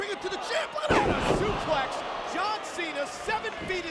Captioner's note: body thudding